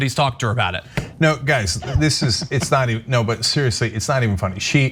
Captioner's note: laugh